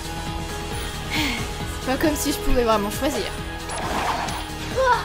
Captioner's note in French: soupir